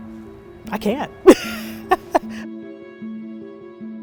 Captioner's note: laughs